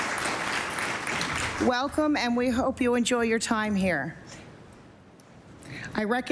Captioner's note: applause